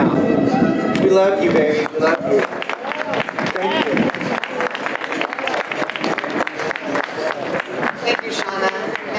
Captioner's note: audience applause